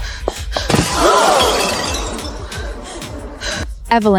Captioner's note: crowd gasps